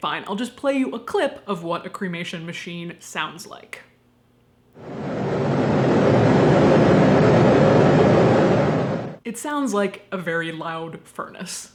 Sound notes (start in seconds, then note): 4.8 more wooshing